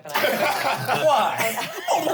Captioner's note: everyone laughs